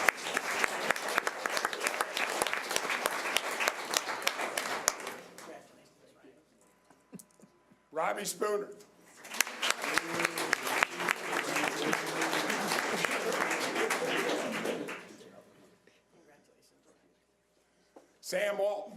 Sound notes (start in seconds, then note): 0.0 audience applause; 9.2 audience applause